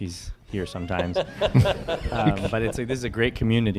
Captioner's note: laughter